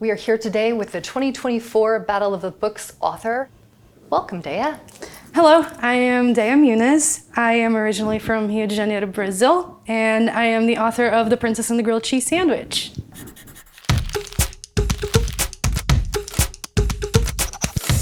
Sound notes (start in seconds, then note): 13.1 pencil scratching; 13.5 upbeat music playing